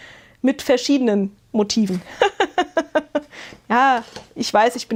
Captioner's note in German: gelächter